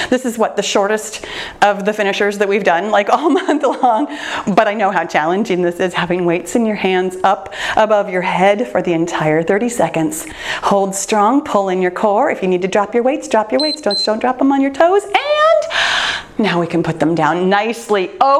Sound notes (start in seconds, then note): 4.0 laughs; 13.6 timer beeps